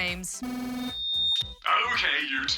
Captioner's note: speaker crackles, whines